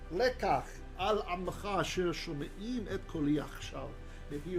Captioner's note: Hebrew